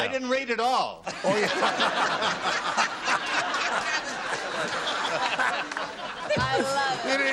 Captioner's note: laughter